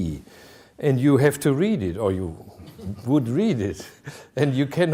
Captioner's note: chuckling